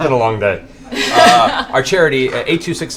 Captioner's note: laughter